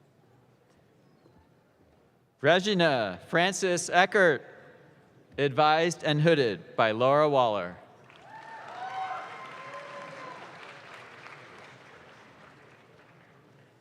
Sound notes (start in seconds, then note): 8.0 audience claps